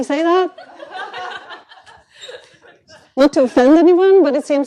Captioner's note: laughter